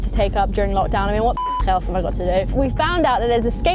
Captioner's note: beep